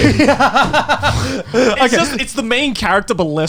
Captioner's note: all laughing